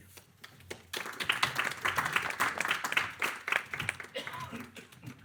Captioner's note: audience applauding